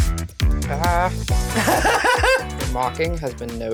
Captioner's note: cackling